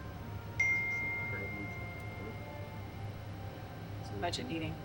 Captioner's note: gentle music; phone notification beeps